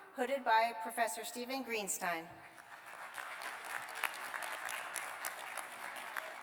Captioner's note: applause